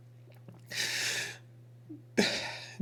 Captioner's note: gasps